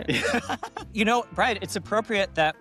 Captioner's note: laughs